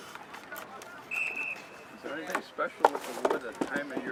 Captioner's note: scraping of Wood & Background Discussions